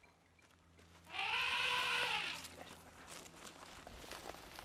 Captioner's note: elephant trumpeting